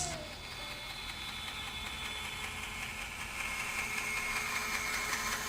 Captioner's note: saw whirring